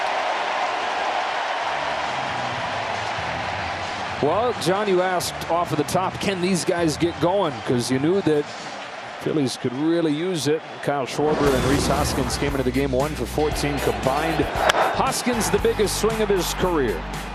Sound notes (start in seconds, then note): 7.2 applause